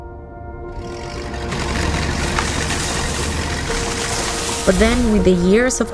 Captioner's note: rumbling